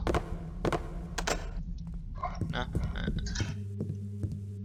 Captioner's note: doorknob loudly clicks